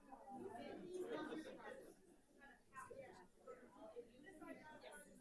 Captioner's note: people chattering